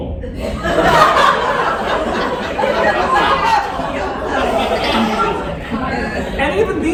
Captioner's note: laughter